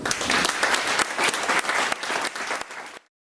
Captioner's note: applause